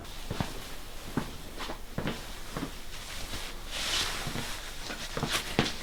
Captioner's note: footsteps